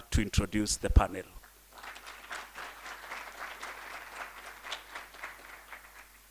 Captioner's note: applause